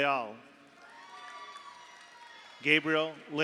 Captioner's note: audience applauds; audience cheers